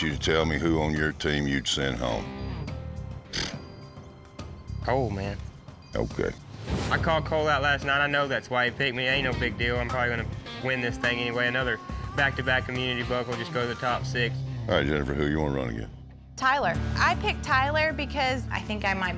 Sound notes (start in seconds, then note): 3.2 scoffs